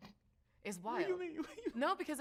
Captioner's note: laughs